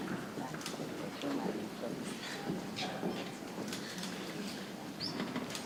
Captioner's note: people chattering softly